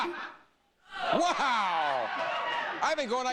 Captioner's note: audience cheering